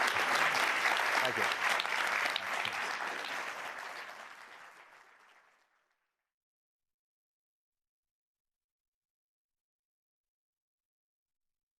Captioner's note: applause